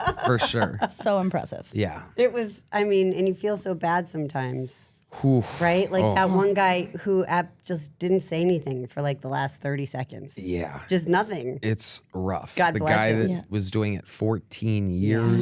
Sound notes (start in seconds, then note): 5.1 Tony exhales